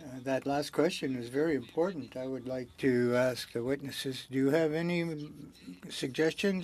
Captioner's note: speaking French